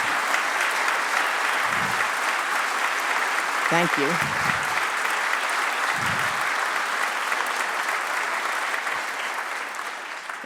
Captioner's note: applause